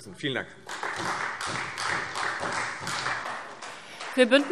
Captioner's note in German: Beifall Freie Demokraten, vereinzelt CDU und SPD